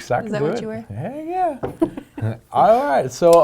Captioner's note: laughing